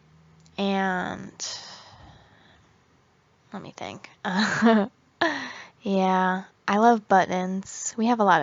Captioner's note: uh huhaha